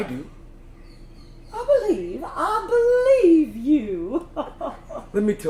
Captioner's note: laughs